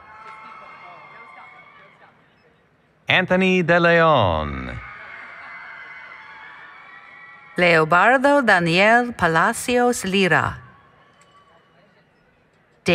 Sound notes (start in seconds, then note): 0.0 applause, Cheering; 4.5 applause, Cheering